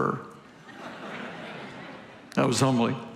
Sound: congregation laughing continues

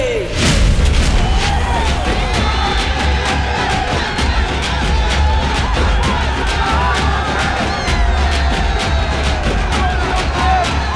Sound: crowd Cheering

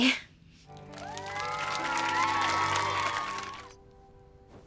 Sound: audience cheering

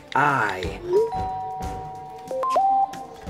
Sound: cell phone beeps; door bell rings

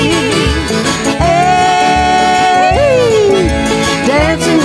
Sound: yelling

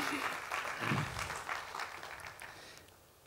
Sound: applause

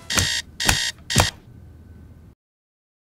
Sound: alarm beeps; alarm stops

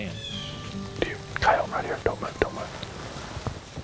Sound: whispering

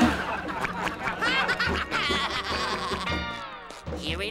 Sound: laughing

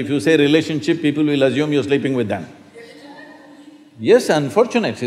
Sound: few Laugh

